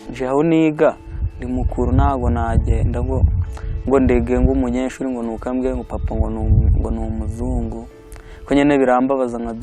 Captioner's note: speaking in Kinyarwanda